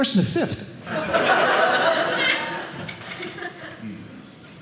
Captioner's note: audience laughing